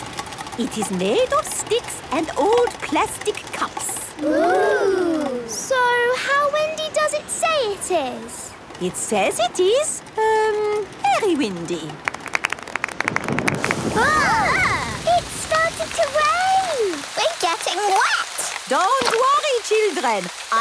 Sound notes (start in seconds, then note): 12.8 thunder; 14.0 exclamations